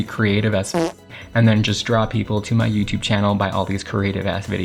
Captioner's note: fart